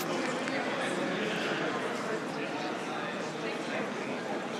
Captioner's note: applause